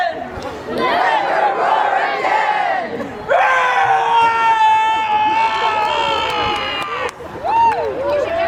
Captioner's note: audience chanting